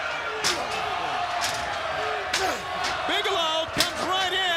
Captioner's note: crowd cheering